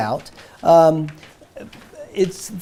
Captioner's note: papers rustling